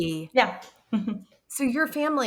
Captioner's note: chuckling